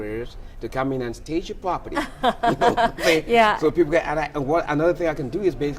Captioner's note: laughs